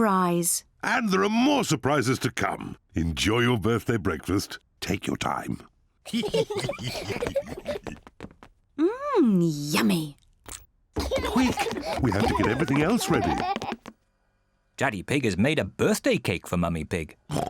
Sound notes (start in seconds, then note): 6.0 all giggle